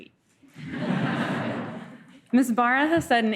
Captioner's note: laughter